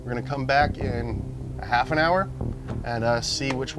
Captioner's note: none